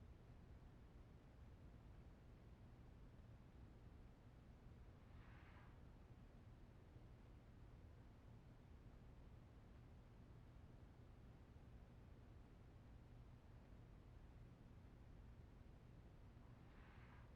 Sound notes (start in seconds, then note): none